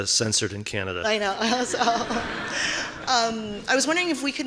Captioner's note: audience laughing